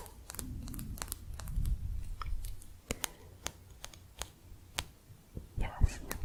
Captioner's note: sporatic tapping